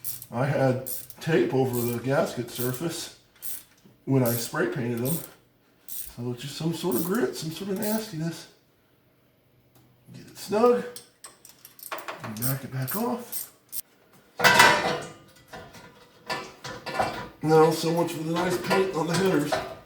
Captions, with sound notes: I had tape over the gasket surface when I spray painted them. A little... just some sort of grit, some sort of nastiness. Snug! And back it back off. *headers clang against the cross-member* Now so much for the nice paint on the headers.